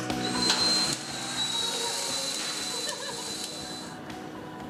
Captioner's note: power drill revving